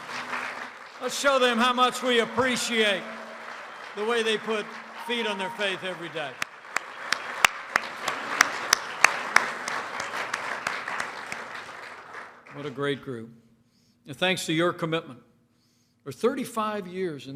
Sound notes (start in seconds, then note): 6.5 applause